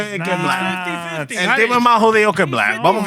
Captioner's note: speaking Spanish